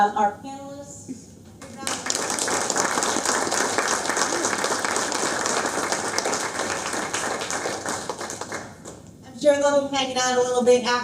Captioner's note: applause